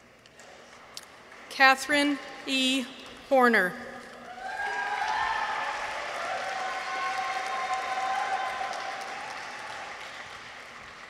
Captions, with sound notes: Catherine E. Horner. -(people cheer) -(audience applauds)